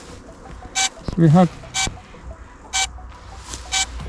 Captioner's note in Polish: słychać dźwięk silników